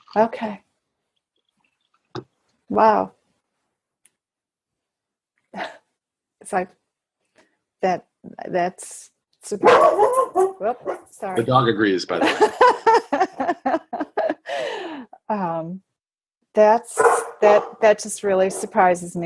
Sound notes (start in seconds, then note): 9.6 dog barking; 11.3 speaker 2 laughing